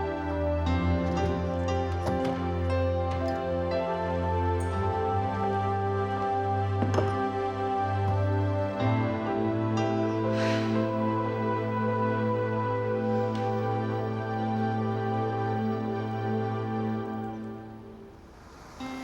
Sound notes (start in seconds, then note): 10.3 sighs